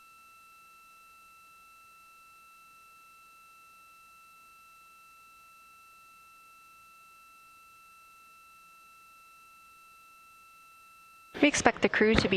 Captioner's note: silence